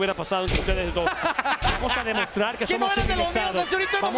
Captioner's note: laugh